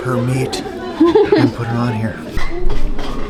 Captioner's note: laughs